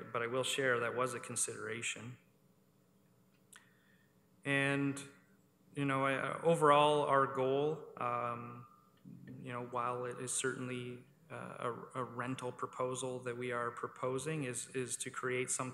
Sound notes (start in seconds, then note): none